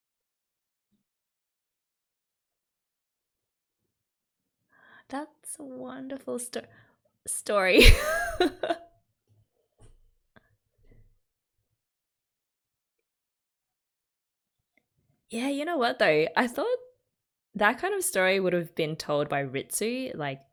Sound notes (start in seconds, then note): 7.8 laughs